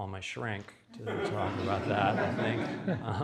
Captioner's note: audience laughs